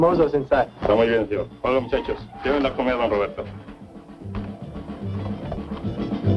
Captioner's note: speaking spanish